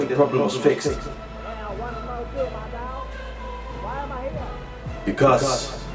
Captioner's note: some more chattering